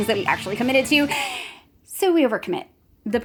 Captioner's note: inhales